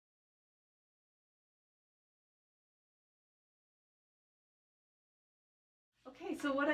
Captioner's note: silence